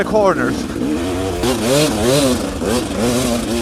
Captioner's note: engine revving